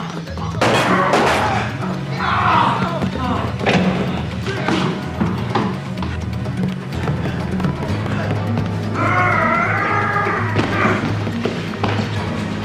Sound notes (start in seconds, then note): 0.1 gun firing; 1.9 groans; 8.8 screams